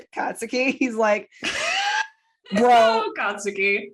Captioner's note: laughter